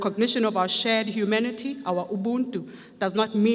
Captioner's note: speaks foreign language